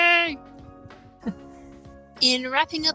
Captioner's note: laughs